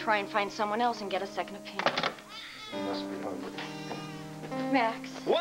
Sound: baby cries

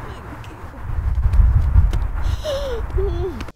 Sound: crying

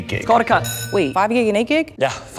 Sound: bell rings

